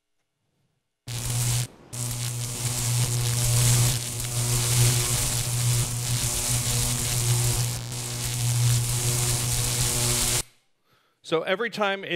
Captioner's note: electricity buzzing